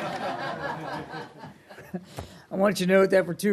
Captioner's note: laughter